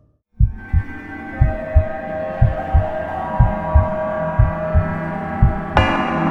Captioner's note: eerie music; heart beating